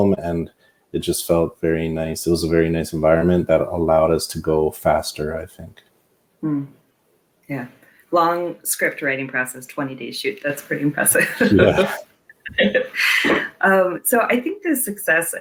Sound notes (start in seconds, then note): 11.1 laughing